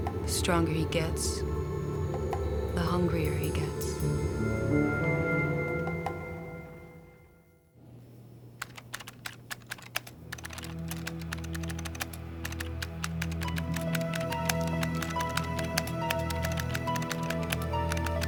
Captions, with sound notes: The stronger he gets, the hungrier he gets. (keyboard clacking) (sinister music)